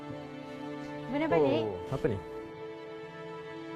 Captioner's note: speaking in language; speaking in foreign language